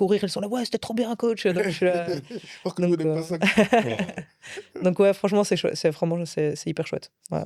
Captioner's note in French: rires